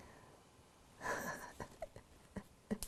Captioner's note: laughing